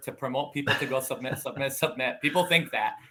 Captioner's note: laughing